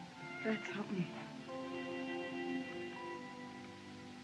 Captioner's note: none